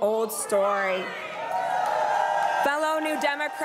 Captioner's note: crowd cheering and applauding